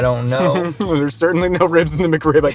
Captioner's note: chuckles